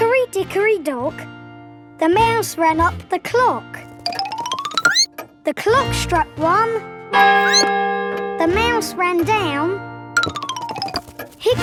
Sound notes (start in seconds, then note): 7.4 squeaks; 7.4 clock chimes